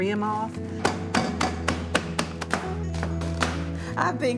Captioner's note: can clunking